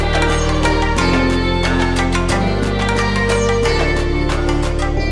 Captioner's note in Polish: Aplauz